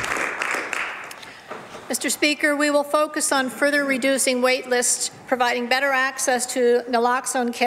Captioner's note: some Applause